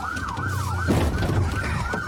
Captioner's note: bangs